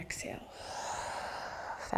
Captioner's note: exhaling